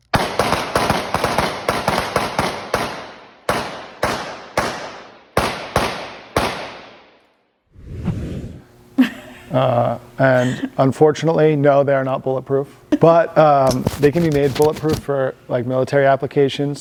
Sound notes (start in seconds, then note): 0.0 guns clacking; 7.7 air whooshing; 10.2 laughs